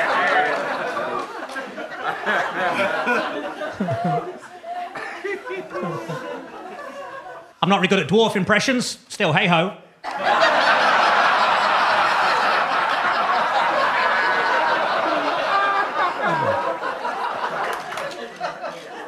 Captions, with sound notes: I'm not very good at dwarf impressions. Still, hey ho. (audience laughing)